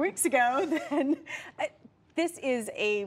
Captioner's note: laughter